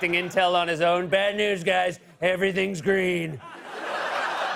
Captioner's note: laughter; As Trump; laughter